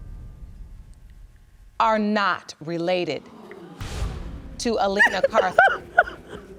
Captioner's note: crying